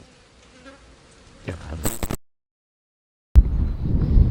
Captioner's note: buzzing of flies - glitch